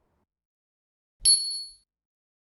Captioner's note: bell dings